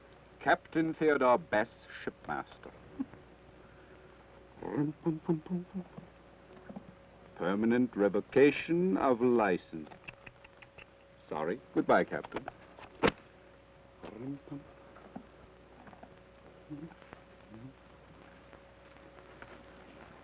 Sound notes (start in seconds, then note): 4.7 hums melodically; 10.6 tuts; 14.1 hums melodically